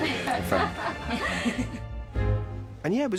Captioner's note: woman laughing